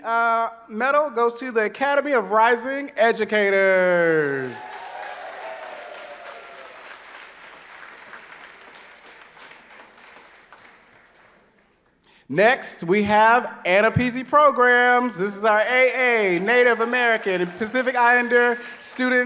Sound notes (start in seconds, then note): 4.2 applause